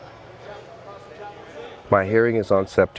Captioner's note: distant chatter